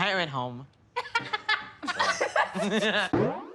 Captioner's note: laughing